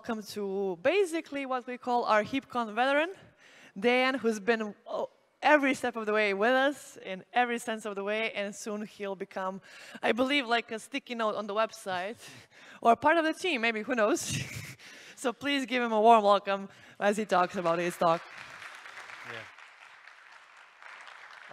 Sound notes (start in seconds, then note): 14.4 chuckles; 17.4 applause